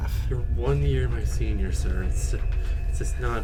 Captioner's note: slightly exasperated